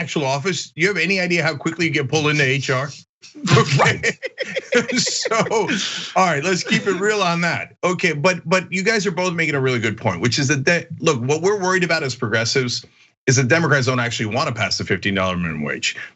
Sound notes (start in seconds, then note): 3.2 laugh